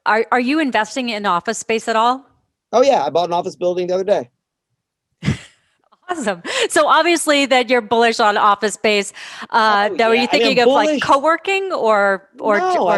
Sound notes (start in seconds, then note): 6.1 laughs